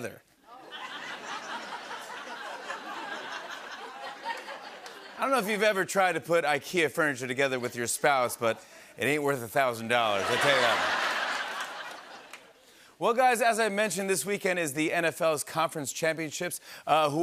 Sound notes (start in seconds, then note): 0.5 laughter; 10.1 laughter and applause